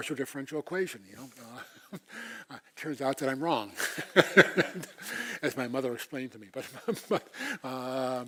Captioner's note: laugh